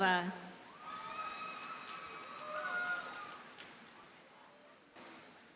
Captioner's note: audience cheers and applauds